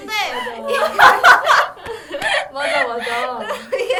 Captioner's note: dying of laughter